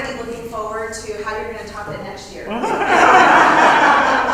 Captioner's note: laugh